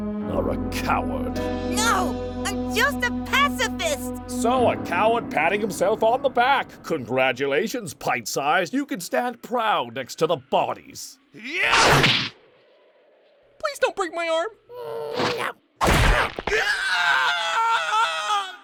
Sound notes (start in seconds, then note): 15.8 bones cracking; 16.0 pained shrieking